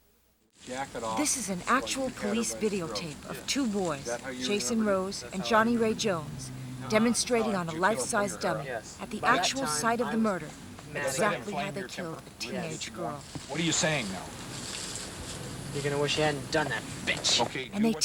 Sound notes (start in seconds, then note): 9.9 voiceover